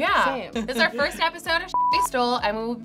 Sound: beep

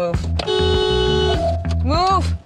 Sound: honks horn

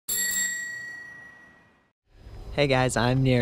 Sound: bicycle bell chiming

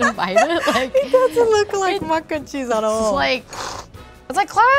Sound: laughs

